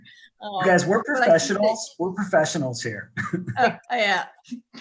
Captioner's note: chuckling